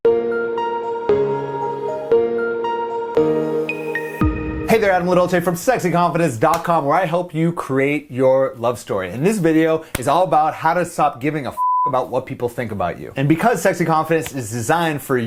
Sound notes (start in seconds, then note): 0.0 calm music; 11.6 beep